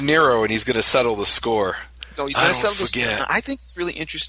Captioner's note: imitating the Godfather